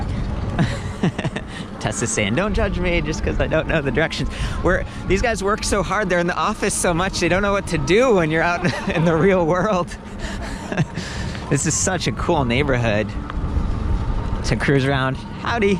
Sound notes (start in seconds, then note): 0.5 laughs; 8.4 laughs